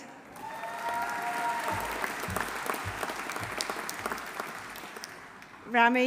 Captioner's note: audience cheering; audience applauding